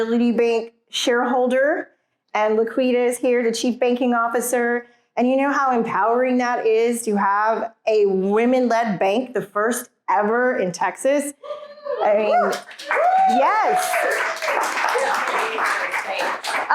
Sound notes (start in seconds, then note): 12.3 applause